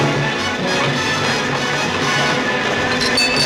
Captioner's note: dramatic music; buzzing